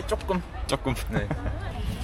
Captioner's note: said with a laugh